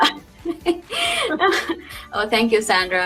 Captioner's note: laughing